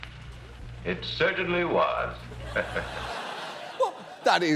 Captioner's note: audience laughs; laughs